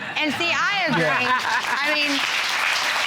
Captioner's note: applause